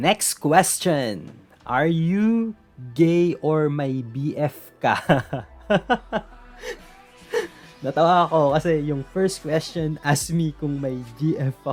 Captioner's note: laugh